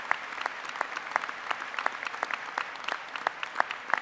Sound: applause

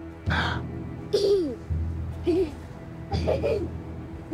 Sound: laughing

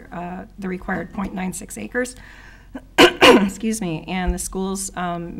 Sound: clearing throat

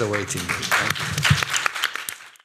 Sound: applause

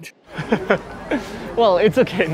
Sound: chuckle

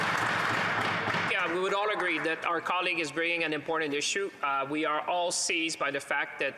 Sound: applause

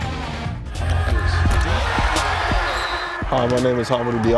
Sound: crowd cheers

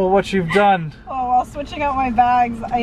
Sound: laughs

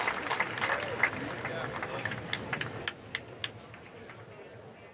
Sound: speaking faintly

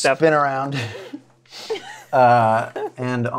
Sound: laughs

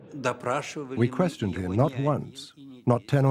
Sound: speaking Russian

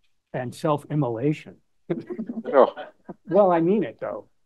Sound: laughter

